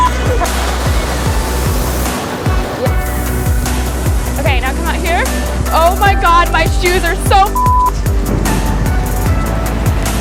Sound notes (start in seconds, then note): 0.1 upbeat music; 7.5 beep; 8.2 upbeat music